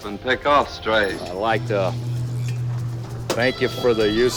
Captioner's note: imitating John Wayne